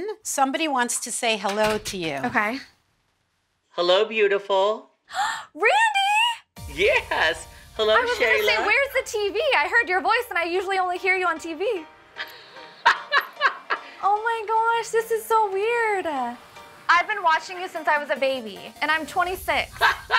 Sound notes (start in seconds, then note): 4.8 gasps; 12.8 laughs; 19.8 laughs